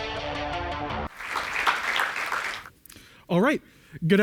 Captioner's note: applause